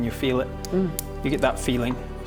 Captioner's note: reverent hmm